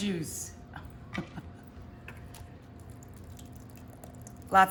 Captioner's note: chuckles